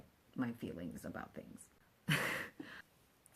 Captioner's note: laughs